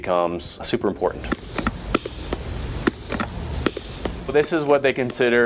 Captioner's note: air hisses